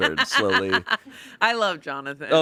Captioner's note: laughs